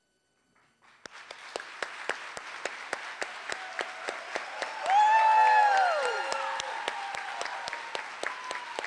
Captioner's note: applause